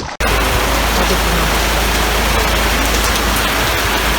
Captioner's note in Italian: rumore di pioggia